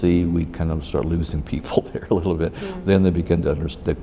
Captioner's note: laughs